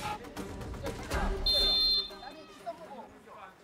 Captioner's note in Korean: 호루라기 소리